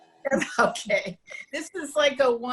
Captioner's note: multiple people laughing